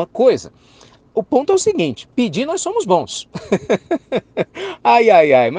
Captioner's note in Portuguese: risos